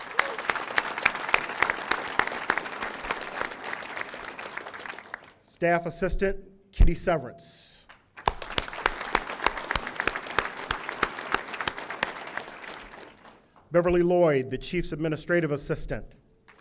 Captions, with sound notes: (audience applauding) Staff Assistant Kitty Severance. (audience applauding) Beverly Lloyd, the chief's administrative assistant.